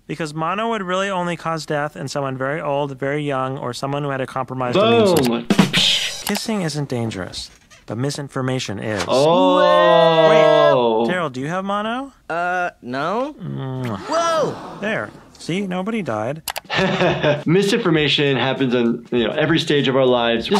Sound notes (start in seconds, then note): 9.0 exclaims; 13.4 Tina groans; 16.6 laughs